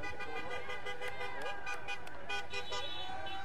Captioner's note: horns honking